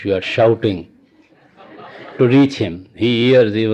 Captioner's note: laughter